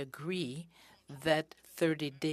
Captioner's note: speaking in french